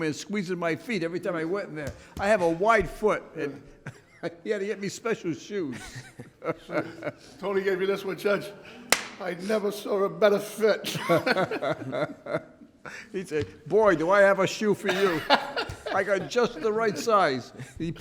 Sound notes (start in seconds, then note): 5.7 laughs; 10.8 laughs